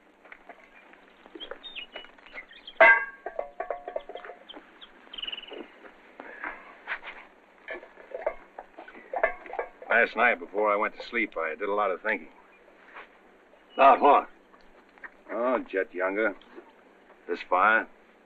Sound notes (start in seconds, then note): none